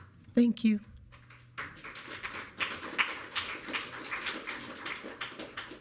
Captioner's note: audience clapping